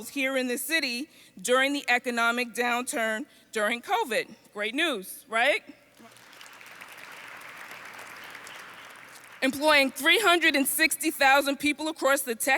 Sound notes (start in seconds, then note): 6.0 audience applauds